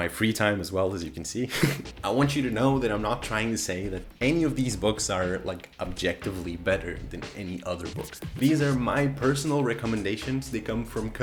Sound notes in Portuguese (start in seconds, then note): 1.5 risos